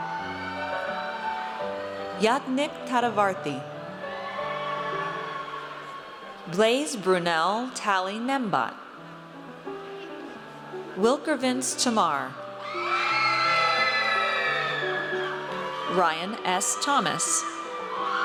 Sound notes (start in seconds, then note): 0.0 audience cheers; 3.9 audience cheers; 12.6 audience cheers